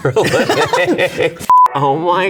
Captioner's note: both giggling